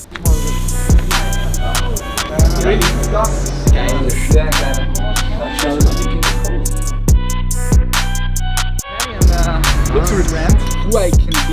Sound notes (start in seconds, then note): 0.3 upbeat music; 3.3 speaking in foreign language